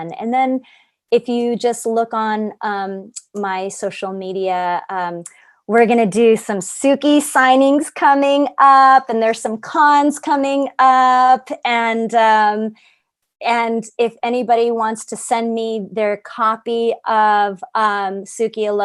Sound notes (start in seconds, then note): none